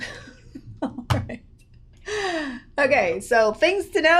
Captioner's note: laughs; laughs